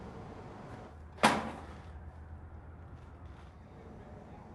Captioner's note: thud